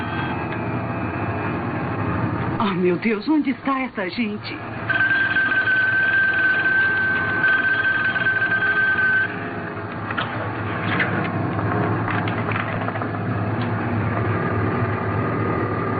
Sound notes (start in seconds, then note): 4.6 line ringing